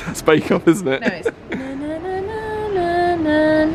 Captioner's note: hums